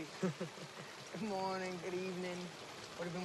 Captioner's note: laughs